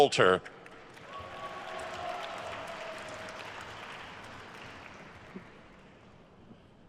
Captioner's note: attendees cheering and applauding